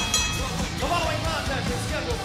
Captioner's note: bell ringing